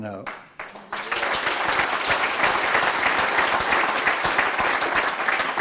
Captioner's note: roaring applause